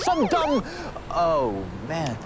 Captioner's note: sirens